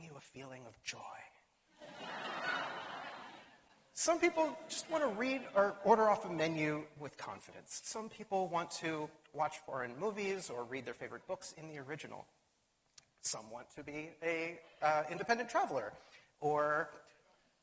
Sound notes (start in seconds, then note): 1.8 laughter